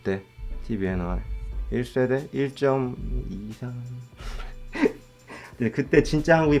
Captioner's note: laugh